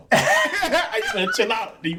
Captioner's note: laughing